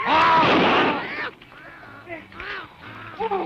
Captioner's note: gunshot